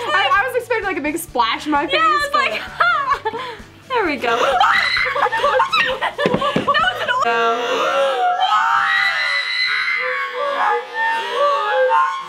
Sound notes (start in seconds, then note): 4.6 screaming; 7.5 slow motion screaming